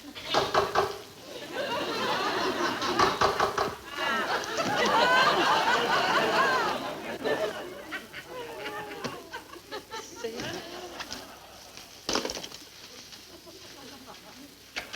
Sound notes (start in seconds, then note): 0.3 door knocking; 1.8 audience laughs; 2.9 door knocking; 4.1 audience laughing continues